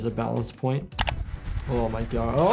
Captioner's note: camera shutter snaps